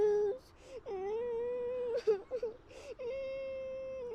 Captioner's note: Sarah sobbing